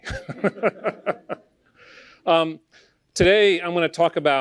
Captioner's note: laughter